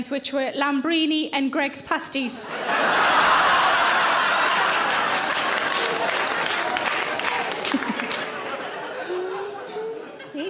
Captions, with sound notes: which were Lambrini and Greggs pasties. (audience laughing) (audience applauding)